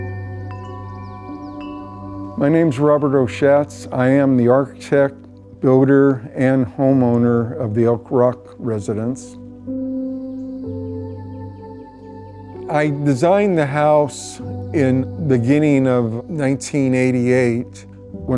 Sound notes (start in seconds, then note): 0.0 chimes clanging; 9.9 pensive music; 10.2 birds tweeting